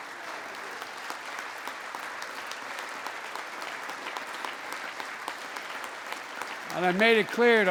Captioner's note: applause